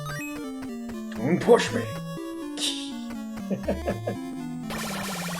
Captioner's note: laughs